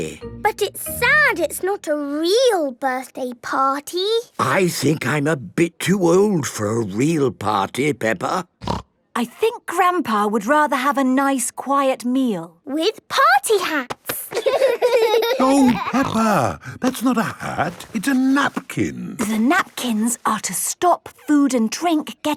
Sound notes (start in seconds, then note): 14.2 laughing